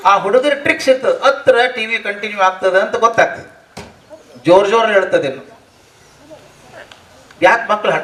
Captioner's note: crying